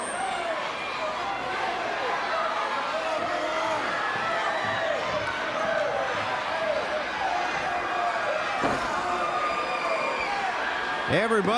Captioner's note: crowd chatter